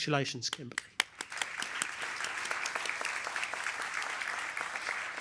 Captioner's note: applause